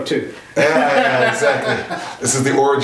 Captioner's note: laughs